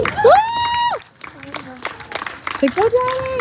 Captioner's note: people cheering